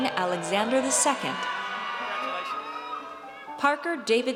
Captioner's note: audience cheers